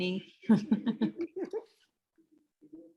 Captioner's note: laughter